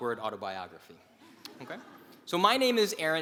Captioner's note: laugh